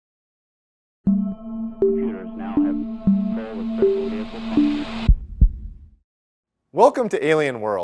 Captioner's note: intro sounds with heartbeat